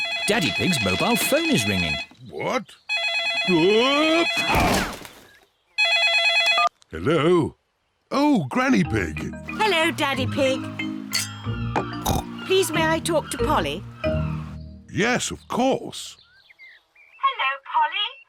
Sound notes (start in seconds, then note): 5.8 phone rings